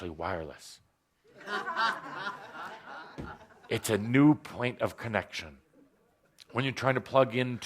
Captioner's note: laughter